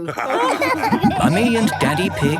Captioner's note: all laughing